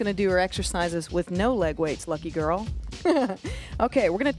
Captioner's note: laughs